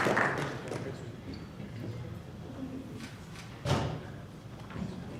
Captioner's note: speaking off mic